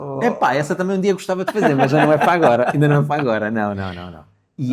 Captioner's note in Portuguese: risadas